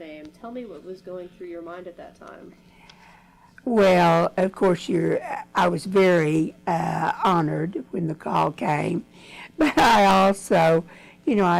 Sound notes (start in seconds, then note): 8.8 laughs